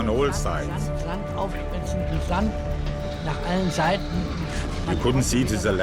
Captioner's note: speaking in foreign language